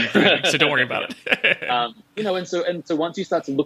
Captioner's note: laughing